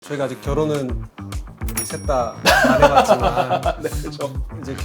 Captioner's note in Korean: 웃음